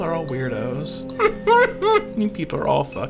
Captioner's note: laughter